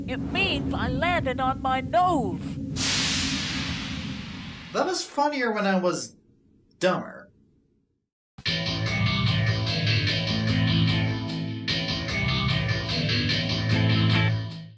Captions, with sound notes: It means I landed on my nose. [Steam sound effect] That was funnier when I was... dumber.